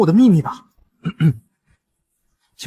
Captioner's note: cough cough